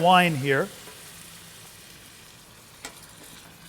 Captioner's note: sizzling, Steam Sounds